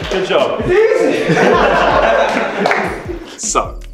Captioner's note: laughing and clapping